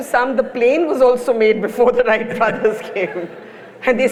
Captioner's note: laughs